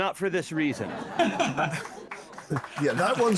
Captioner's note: audience Laughing